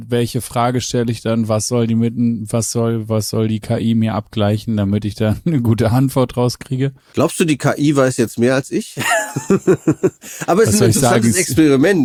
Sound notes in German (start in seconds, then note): 9.0 gelächter